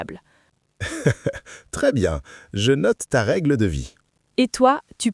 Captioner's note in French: rire